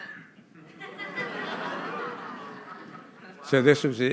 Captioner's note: laughter